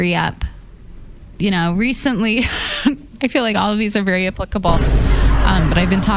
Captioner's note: scoffs